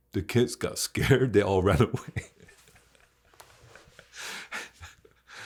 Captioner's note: chuckles